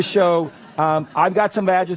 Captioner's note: laughter